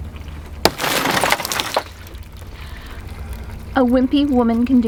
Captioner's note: glass breaking